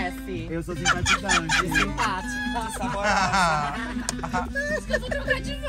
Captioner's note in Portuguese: risos